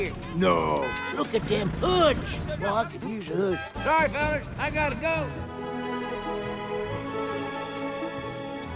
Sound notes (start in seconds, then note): 3.6 horn honking; 5.2 relaxing music